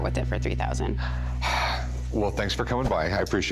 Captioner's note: sighs